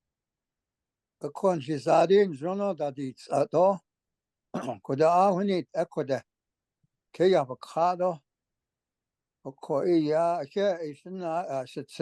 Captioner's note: speaking Navajo